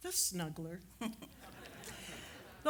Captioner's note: giggles